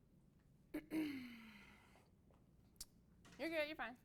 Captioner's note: clears throat